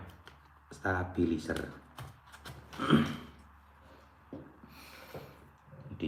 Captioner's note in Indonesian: berdehem